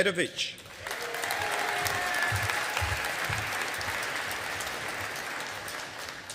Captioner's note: audience applauding